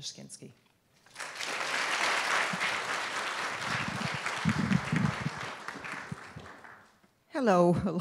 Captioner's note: applause